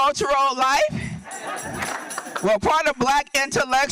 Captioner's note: audience laughing